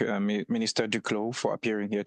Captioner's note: speaking French